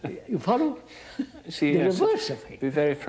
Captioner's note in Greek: γέλια